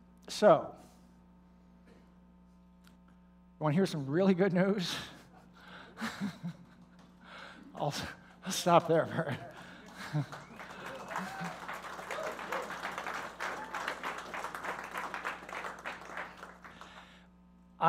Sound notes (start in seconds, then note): 8.8 laughing; 15.6 applause